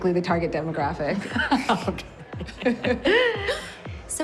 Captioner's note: laughing